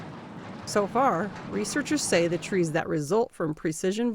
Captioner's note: voice-over